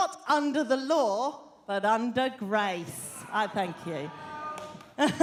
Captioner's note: laughter